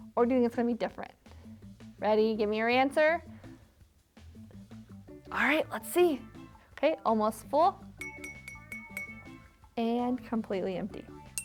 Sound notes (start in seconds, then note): 8.0 jar tinking; 11.2 jar tinking